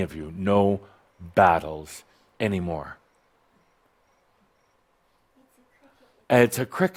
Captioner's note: someone’s cell phone rings with a cricket sound